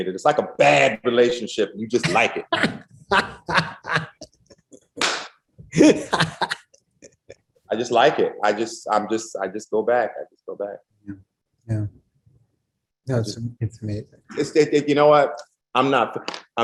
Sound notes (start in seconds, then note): 2.6 laughs